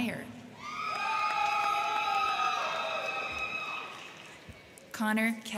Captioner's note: crowd cheering; crowd clapping